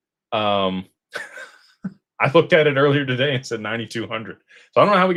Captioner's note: laughter